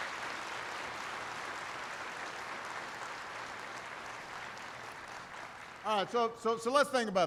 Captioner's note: applause